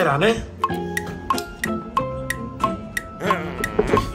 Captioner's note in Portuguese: som de relógio